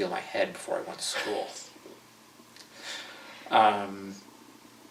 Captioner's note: laughter